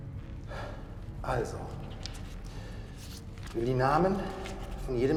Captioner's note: speaking German